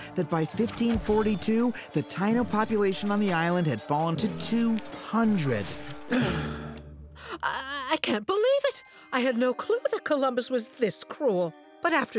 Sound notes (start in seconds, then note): 5.9 groans